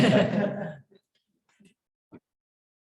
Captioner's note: chuckling